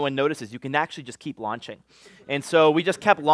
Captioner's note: laughter